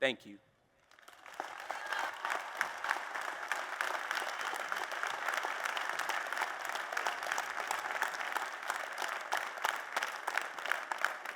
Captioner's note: applause